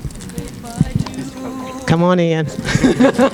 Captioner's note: laughing